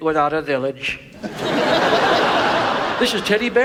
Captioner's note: audience laughs